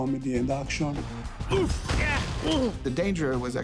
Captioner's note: both grunt